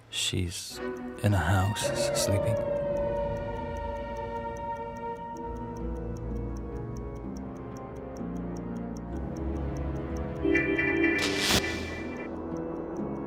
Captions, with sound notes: She's... ...in her house, sleeping. [solemn music] [messenger app sound]